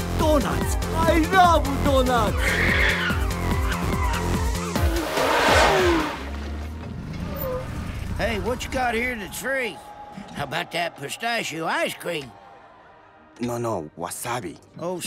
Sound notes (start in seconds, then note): 2.3 tires squealing